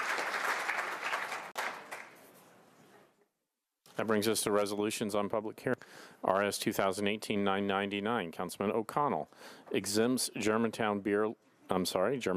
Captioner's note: applause